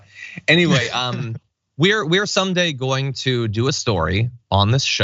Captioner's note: laugh